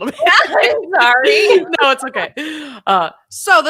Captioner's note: laughing